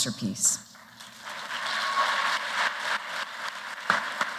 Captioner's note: applause